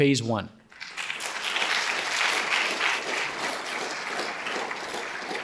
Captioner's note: audience applauding